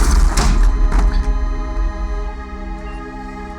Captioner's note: machine beeps